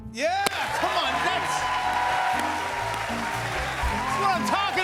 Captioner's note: cheers and applause